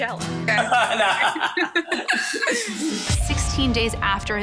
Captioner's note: laughs